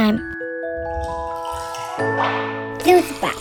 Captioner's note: juice splashing